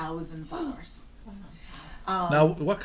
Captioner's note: voiceover; gasps; voiceover